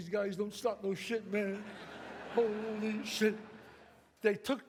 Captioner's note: audience laughs